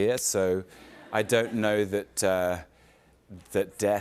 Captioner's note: light laughter